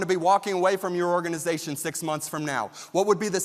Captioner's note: none